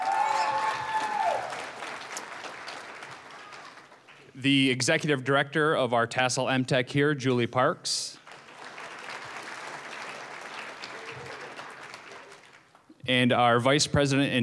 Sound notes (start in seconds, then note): 0.0 applause, cheering; 8.1 applause